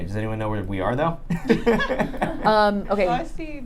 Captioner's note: laughing